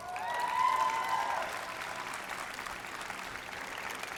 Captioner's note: applause